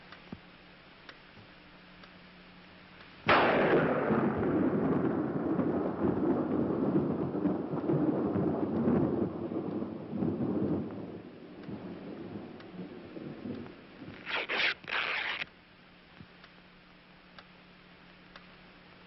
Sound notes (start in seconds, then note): 3.2 thunder